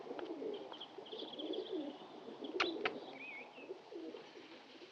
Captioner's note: kisses